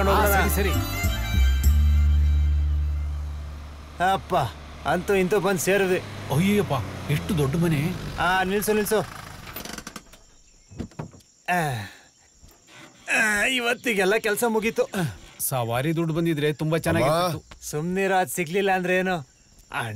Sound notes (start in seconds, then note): 9.0 car engine stops; 10.7 car Door Open